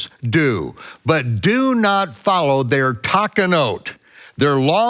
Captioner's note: speaks in foreign language